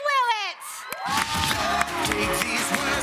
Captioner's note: audience cheers